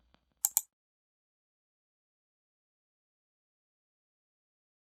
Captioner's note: mouse pointer clicks